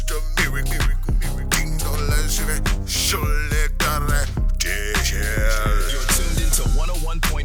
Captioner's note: speaking new language